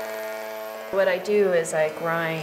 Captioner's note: the buzzing of an electric tool